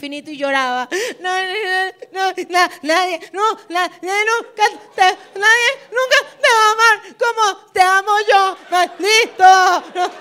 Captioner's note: sobbing